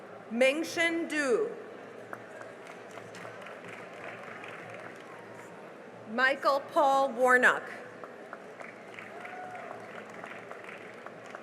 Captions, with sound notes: Mengxin Du [CHEERING AND APPLAUSE] Michael Paul Warnock [CHEERING AND APPLAUSE]